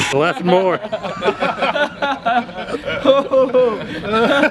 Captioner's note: drum beating; laughing